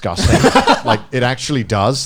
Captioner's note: laughing